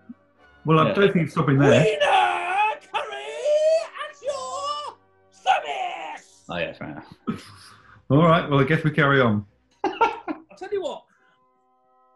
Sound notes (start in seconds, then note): 1.6 high pitched, screeching posh voice; 9.8 giggling